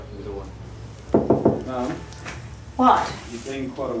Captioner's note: knocks